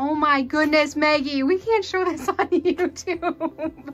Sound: laughing

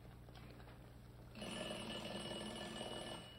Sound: timer rings

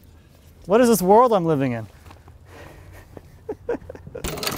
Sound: laughing

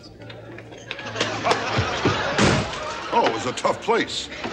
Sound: audience laughter

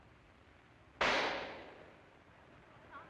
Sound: gunshot

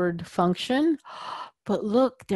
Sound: gasp

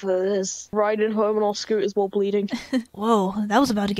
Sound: laughs

